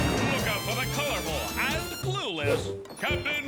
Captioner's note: air whooshing